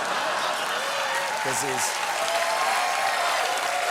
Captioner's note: applause